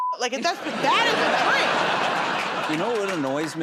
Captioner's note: laughter